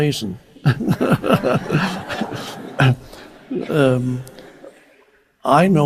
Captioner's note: instructor and audience laughs